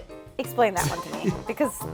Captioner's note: laughs